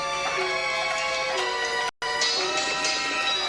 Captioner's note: clanging